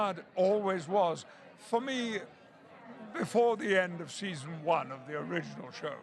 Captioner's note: laughter